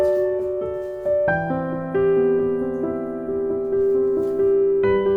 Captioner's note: whisk whisk